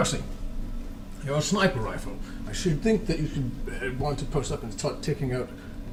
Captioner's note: none